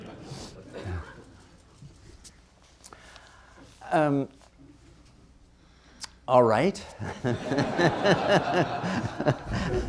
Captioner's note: laughter